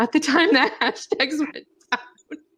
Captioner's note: laughs